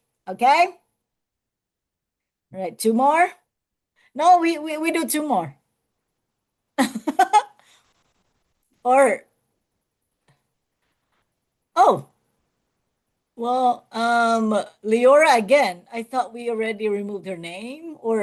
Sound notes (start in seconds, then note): 6.8 laughs